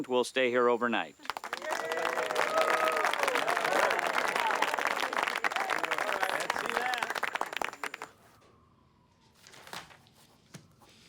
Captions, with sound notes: will stay here overnight. (crowd clapping) (crowd cheering) - Yeah. - All right, let's see that.